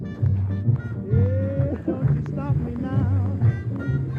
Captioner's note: laughter